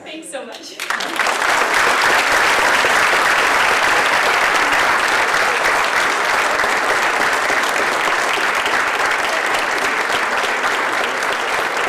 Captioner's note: applause